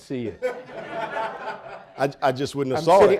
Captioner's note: audience laughing